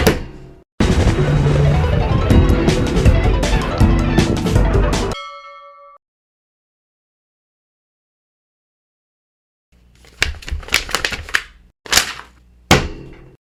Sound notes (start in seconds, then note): 0.0 bang bang crash bang; 9.8 flap flap